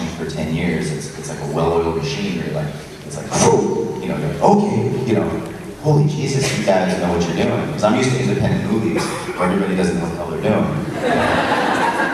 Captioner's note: audience laughs